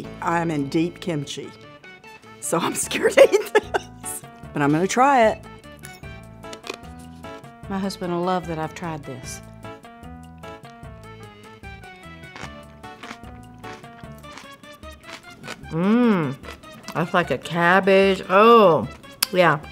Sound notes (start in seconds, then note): 3.0 laughs; 11.7 food crunching